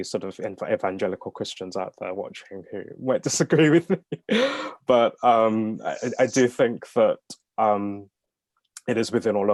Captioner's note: laughs